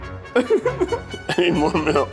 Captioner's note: laughing